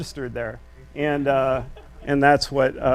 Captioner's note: audience laughs